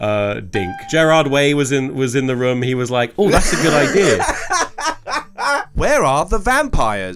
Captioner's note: laughs